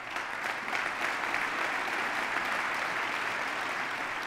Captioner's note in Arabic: تصفيق